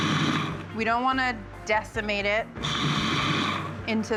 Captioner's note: processor whirring briefly; processor whirring briefly